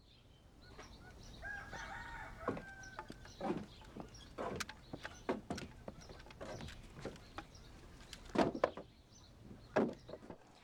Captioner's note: rooster crows